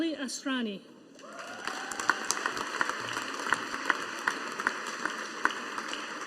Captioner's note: audience applauding